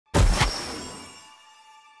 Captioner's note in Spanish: Explosión